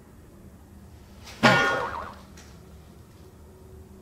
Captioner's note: whack